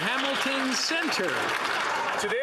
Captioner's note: some Applause